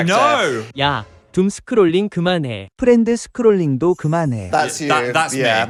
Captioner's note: speaking foreign language